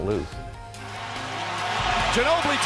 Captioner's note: crowd cheering